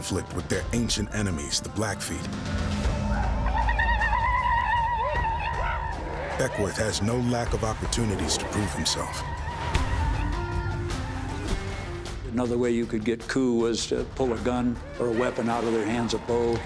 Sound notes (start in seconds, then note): 2.7 war cries